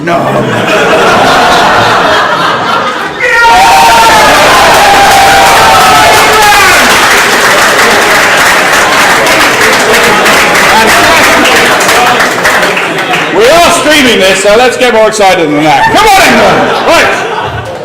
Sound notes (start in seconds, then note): 0.4 laugh; 3.9 applause